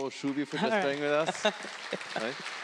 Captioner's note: audience clapping